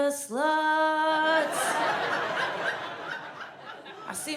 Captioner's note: audience laughs